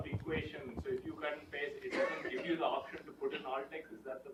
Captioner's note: someone coughs